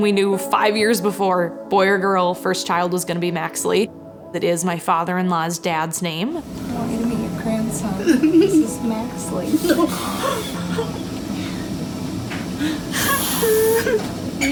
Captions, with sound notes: We knew five years before, boy or girl, first child was gonna be Maxley. It is my father-in-law's dad's name. I want you to meet your grandson. This is Maxley. (sobbing)